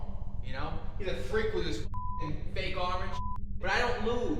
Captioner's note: beep